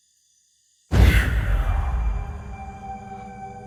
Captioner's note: ghostly voice gasps; tense suspenseful music